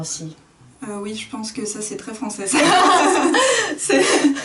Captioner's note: laughs